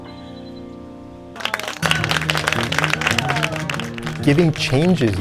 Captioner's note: audience applauds